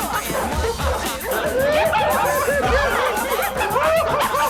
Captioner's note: laughter